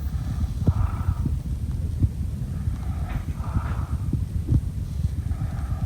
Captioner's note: heavy, rattling breathing